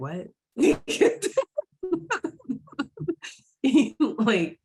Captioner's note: laughing